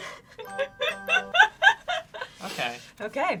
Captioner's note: laughs; chiming